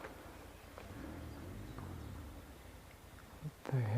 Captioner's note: engine noises in the distance